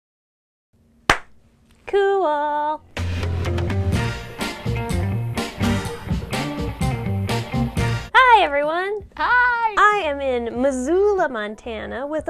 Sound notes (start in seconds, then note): 1.1 claps; 3.1 fun upbeat music